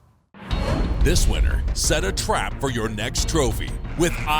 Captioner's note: voiceover